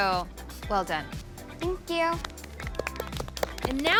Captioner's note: applause